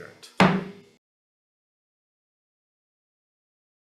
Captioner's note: gavel bangs